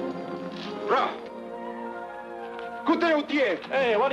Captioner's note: man speaking in foreign language